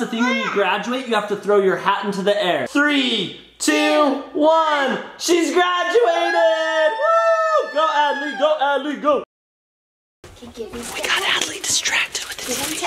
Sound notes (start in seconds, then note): 5.8 cheering